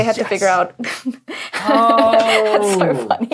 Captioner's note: laughs